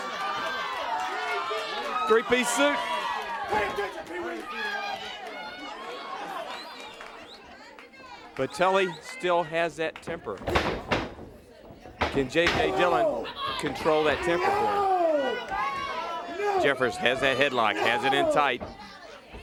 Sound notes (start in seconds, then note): 0.1 crowd cheering; 4.9 crowd chatter; 8.8 crowd chatter